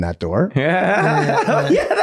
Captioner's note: everyone laughing